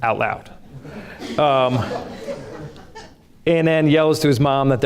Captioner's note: audience laughs